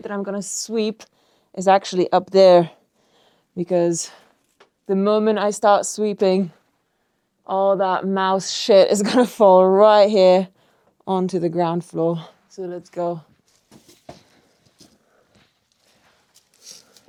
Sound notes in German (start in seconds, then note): none